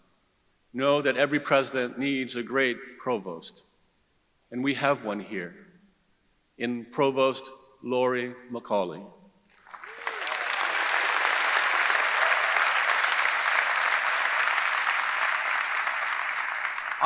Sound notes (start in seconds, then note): 9.5 audience applauding; 9.6 audience cheering